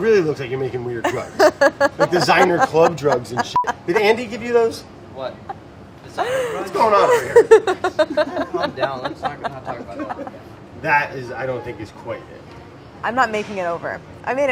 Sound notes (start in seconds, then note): 1.0 laughing; 3.5 beeps